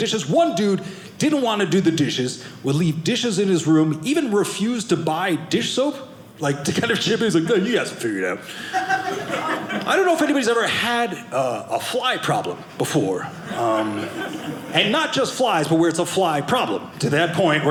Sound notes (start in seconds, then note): 8.5 audience laughing